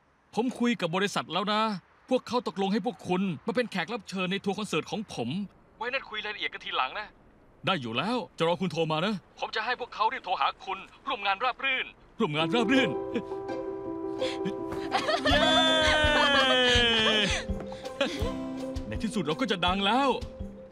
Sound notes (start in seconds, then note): 12.9 cheering